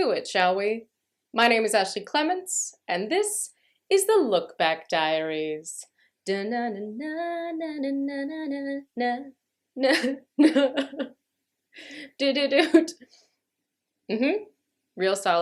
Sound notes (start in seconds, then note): 9.9 vocalizing, then laughter